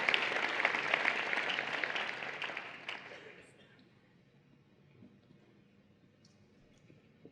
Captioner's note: applause and Cheering